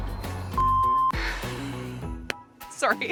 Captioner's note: beep